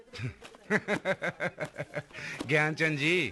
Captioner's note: laughing